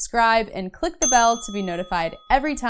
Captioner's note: bell rings